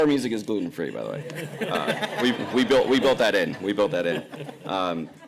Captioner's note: laughter